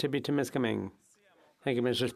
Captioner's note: speaking French